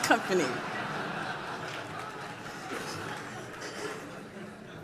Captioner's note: laughter